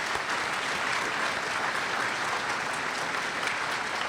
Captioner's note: applause